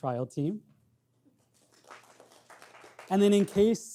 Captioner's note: audience clapping